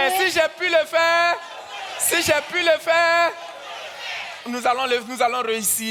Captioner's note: continues in French; audience cheers; continues in French